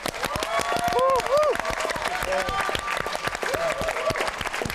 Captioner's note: applause